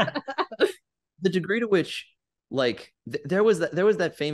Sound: laughter

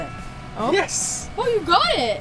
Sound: ding

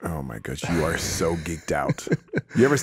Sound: Justin laughs

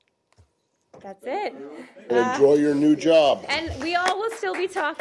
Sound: applause

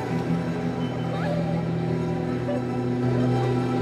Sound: girls chatter

